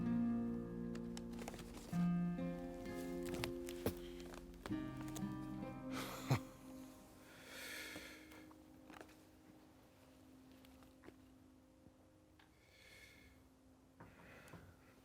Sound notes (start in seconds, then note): 5.9 John discovers the gift that Abigail mailed to him in Strawberry. He chuckles